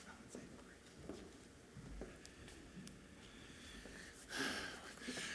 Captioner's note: speaking away from mic